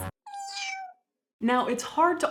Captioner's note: miau